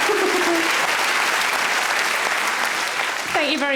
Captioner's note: laughs; audience applauds